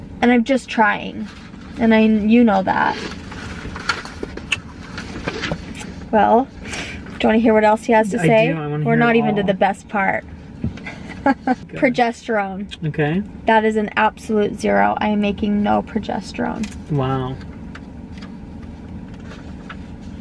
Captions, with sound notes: And I'm just trying and you know that. Well, do you wanna hear what else he has to say? - I do, I wanna hear it all. - We're not even to the best part. (chuckling) Progesterone. - Okay. - That is an absolute zero. I am making no progesterone. - Wow.